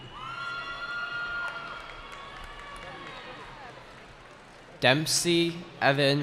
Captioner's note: cheering